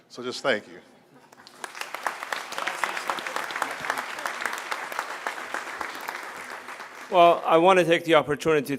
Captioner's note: applause